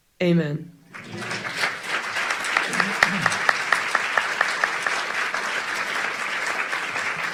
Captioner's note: audience clapping